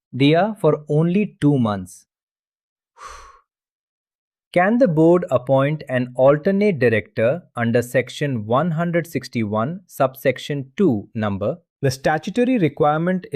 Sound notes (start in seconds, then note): 2.9 exhales